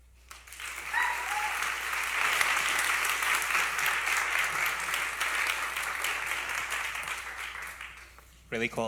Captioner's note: applause